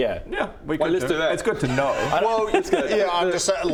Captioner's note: cryptic giggle